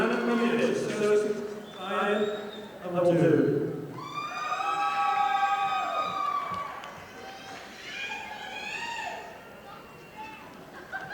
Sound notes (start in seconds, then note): 4.4 audience applauding